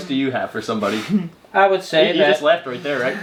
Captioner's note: laughing